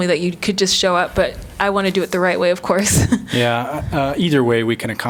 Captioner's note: laughter